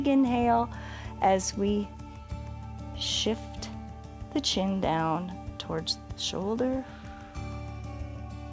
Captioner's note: exhales